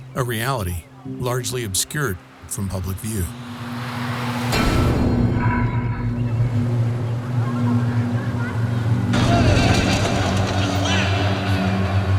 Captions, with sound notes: A reality largely obscured from public view. (vehicle passing) (creepy music)